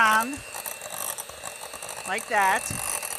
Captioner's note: blender machine roaring